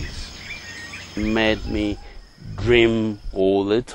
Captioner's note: sweeping